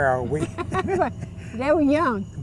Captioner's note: laughs